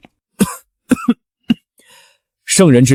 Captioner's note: cough